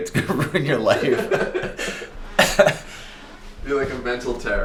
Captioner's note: laughing